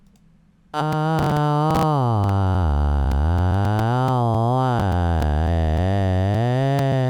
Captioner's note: weird voicebox noises